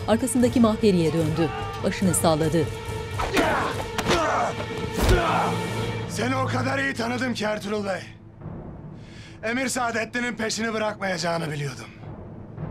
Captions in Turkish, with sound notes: (Bağırma sesleri) (Dövüş sesleri) Seni o kadar iyi tanıdım ki Ertuğrul Bey... ...Emir Sadeddin'in peşini bırakmayacağını biliyordum.